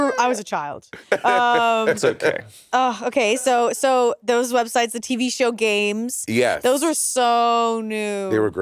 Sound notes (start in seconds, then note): 1.0 Monét laughing